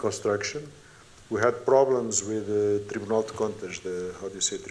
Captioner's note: non-english speech